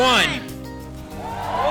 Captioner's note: cheering